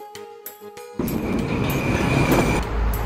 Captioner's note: train noise